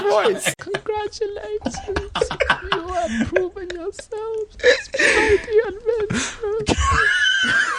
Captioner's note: in a small, distant voice